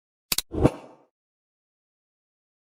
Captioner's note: air swooshing; mouse clicking; air swooshing